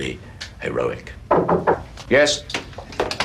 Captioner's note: knocking